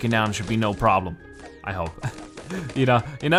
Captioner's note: chuckles